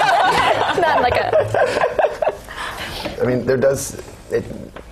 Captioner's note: laugh